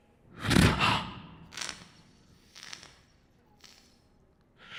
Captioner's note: breathes